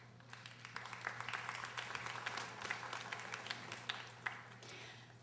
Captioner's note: audience applauding